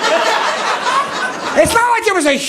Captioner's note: audience laughing